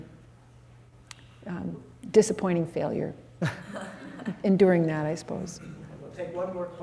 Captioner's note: laughter